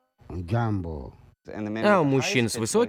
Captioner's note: man speaking native language in low-pitched voice